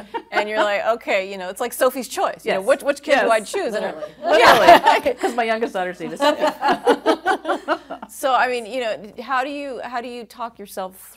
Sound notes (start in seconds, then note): 6.0 laughing